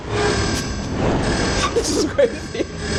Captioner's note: laughing